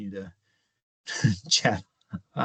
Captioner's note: chuckling